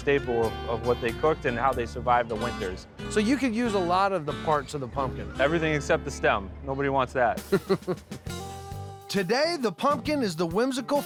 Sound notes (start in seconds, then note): 7.4 chuckles